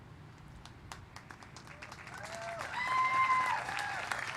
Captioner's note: applause